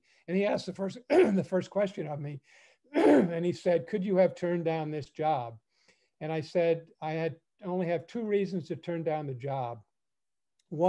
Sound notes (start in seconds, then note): 2.9 clears throat